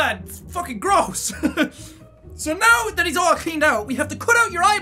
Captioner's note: laughs